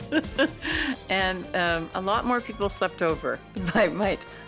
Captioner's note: laughs